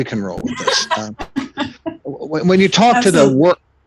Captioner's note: laughing